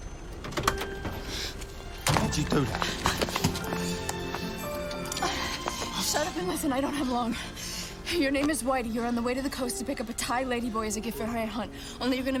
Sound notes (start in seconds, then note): 3.6 sirens blaring